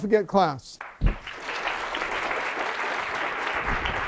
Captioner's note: applause